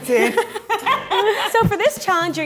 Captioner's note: laughing